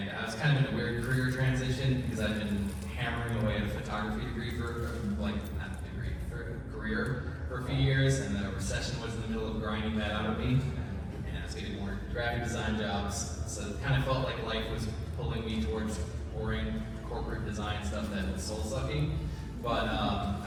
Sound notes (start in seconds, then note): none